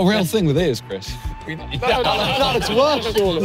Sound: all laughing

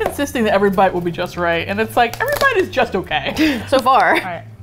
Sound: both laugh

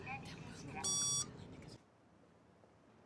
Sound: buzzer dings

